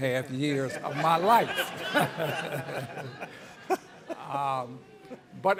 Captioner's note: audience laughing